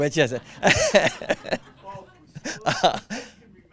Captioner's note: laughing